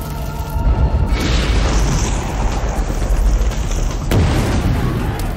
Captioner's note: explosion